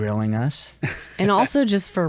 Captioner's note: laughs